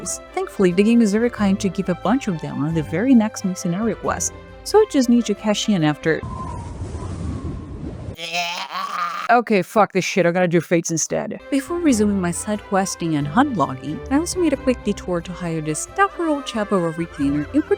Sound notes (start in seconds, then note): 6.2 Wind SFX its the Waking Sands lmao; 8.1 pain goblin noises